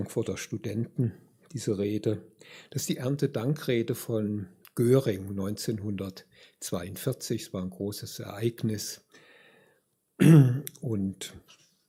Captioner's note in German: räuspern